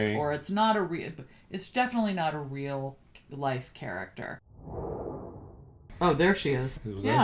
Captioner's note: start clip sfx